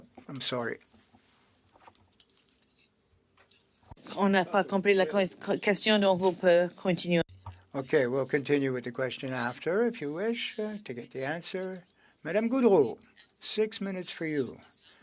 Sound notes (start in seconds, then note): 8.1 speaking French